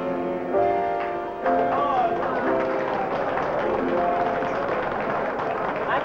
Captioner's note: applause